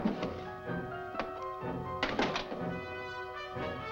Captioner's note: drawer clattering